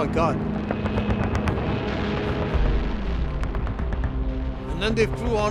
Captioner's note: planes buzz; machine guns rattle